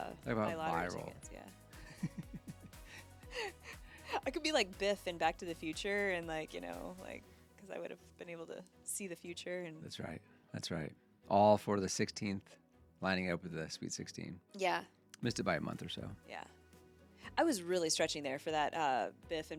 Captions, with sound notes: I have a water roll. Yeah. (laughing) I could be like Biff and Back to the Future and like, you know, like, cause I would have been able to see the future and. That's right, that's right. All for the 16th lining up with the Sweet 16. Yeah. Missed it by a month or so. Yeah. I was really stretching there for that Biff